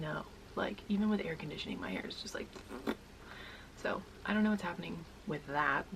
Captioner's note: mouth noises